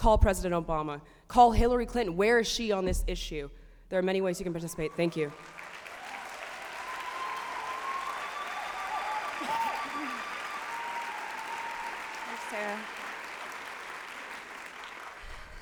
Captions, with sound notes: Call President Obama. Call Hillary Clinton. Where is she on this issue? There are many ways you can participate. Thank you. -[applause and cheering]